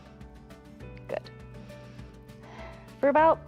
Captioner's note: exhales